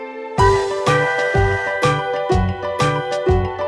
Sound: train toots

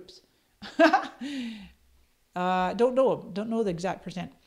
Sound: chuckles

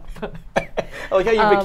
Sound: laughs

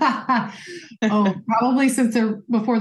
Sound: laugh

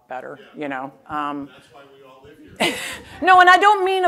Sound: laughter

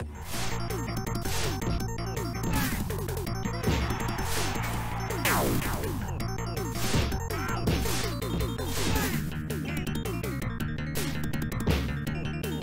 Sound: game sounds

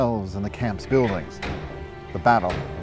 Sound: heavy metal doors clanking shut

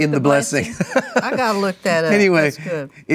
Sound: laughs

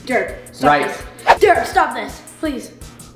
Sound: air whistling

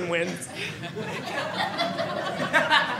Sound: audience laughing

